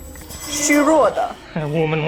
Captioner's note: Mandarin language